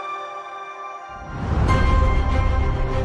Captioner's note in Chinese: 呼呼声